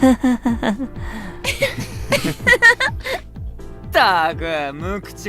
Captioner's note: laughs